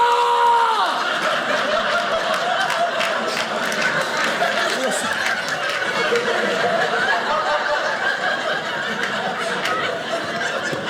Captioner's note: audience laughing